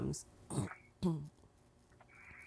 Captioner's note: clears throat